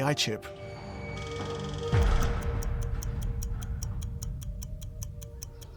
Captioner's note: clock whirring and ticking